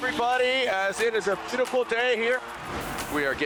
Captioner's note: upbeat music plays; crowd roars; graphic whooshes